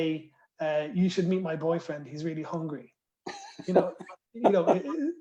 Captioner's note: laughter